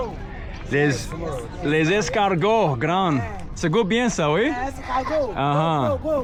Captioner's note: people speaking in foreign language